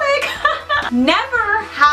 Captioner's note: laughing